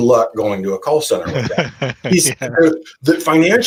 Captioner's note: laughing